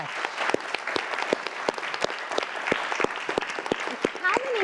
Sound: audience applauding

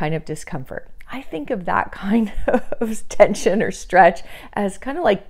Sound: laughing

